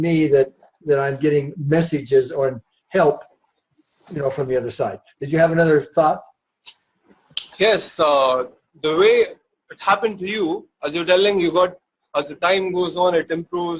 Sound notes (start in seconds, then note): 8.2 stammers